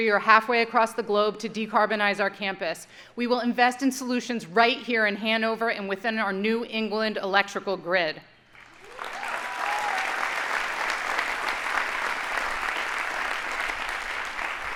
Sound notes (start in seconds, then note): 8.5 audience applauding